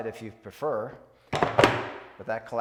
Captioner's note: plastic thuds